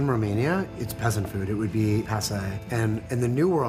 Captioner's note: speaking in foreign language